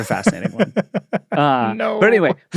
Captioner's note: laughs